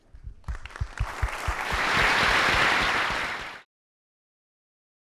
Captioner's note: applause